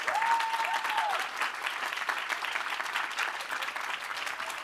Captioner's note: applause